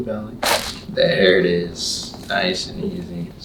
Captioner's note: back cracking